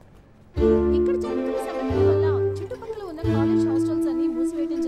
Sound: TV news reporting

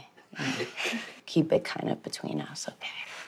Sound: family chuckles

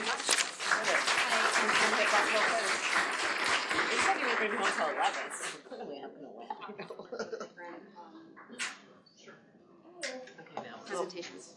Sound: applause

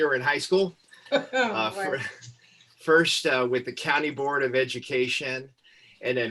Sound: laughter

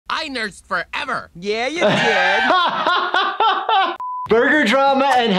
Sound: laughs

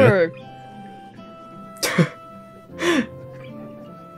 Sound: chuckles

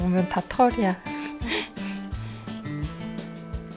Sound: laugh

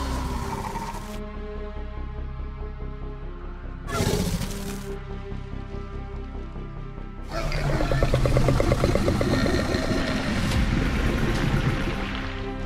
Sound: Scorpius Rex growls

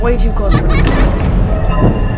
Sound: Balloon Boy Laughs

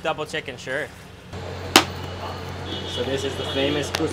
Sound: smacking

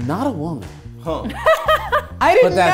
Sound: laughing

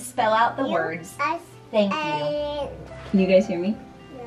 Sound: babytalk

